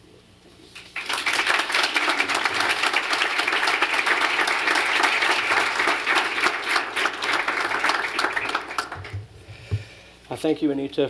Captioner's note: applause